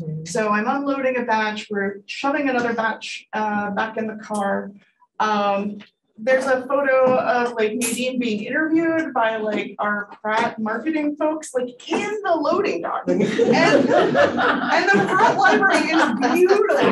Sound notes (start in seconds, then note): 13.0 audience laughing